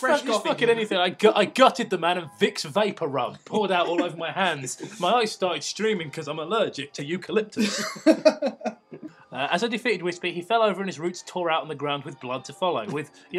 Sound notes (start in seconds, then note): 7.6 laughter